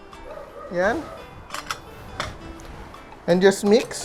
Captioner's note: clicks